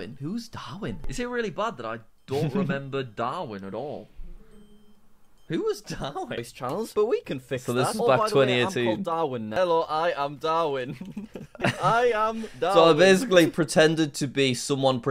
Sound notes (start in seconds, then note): 10.8 laughs